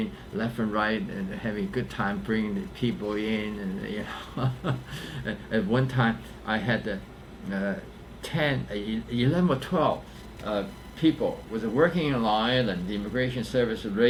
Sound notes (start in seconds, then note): 4.0 laughs